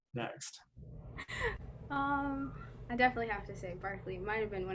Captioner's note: laughs